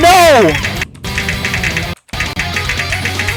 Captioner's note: audio spasming